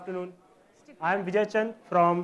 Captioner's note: audience talking amongst themselves